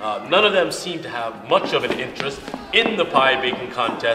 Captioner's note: none